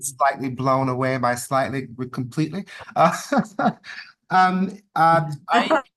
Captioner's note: chuckles